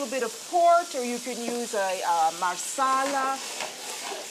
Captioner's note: speaking Italian